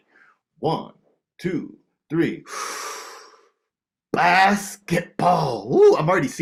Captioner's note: inhales deeply